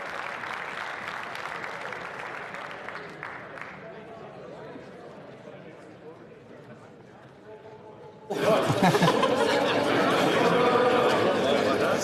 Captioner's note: applause